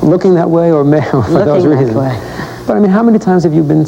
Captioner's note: laugh